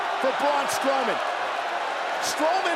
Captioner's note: audience cheers